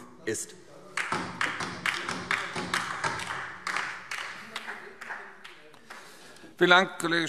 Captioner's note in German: Beifall DIE LINKE